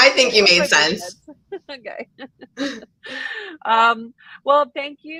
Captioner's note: both laughing